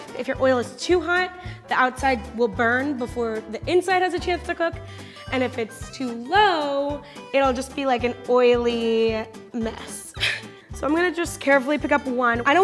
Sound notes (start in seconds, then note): 10.1 laugh